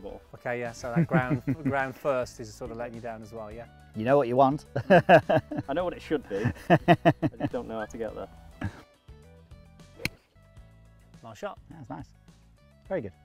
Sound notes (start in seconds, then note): 8.6 laughing